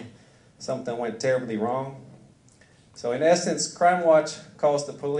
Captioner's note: none